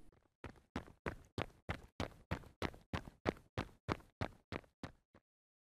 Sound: sound of person running

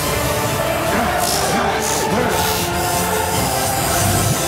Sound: electricity crackling; magic zipping

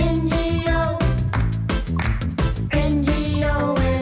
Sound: clap! clap!

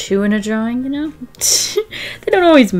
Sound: laughs

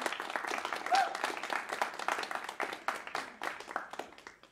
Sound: applause

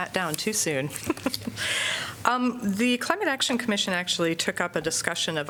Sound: laughter

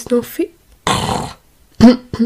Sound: growls

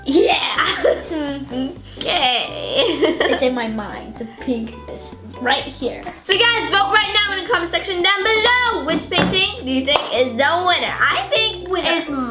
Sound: laughs

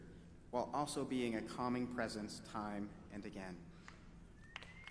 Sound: applause

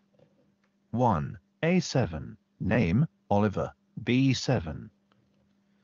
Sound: screen reader robotic voice

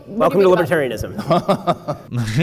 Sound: laughs awkwardly; moderator laughs

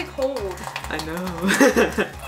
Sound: laughs

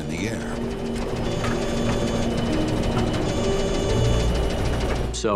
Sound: instrument beeps

